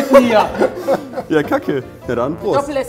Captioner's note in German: Lachen